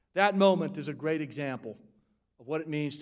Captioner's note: none